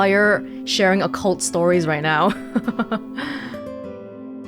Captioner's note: chuckles